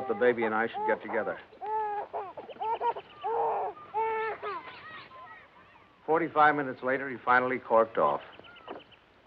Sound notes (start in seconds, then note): 3.8 baby crying